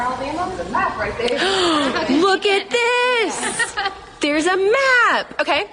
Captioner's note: gasp